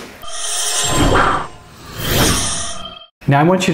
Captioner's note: electronic tones